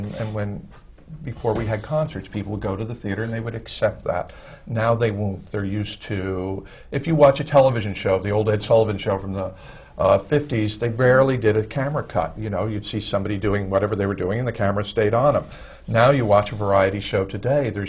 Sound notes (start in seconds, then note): none